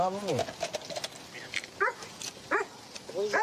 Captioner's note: dog barks